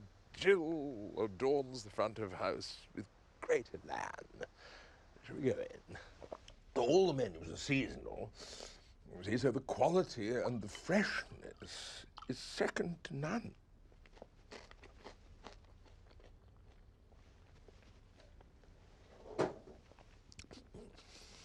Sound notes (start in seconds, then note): 13.9 food crunching